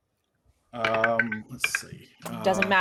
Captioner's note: dice rolling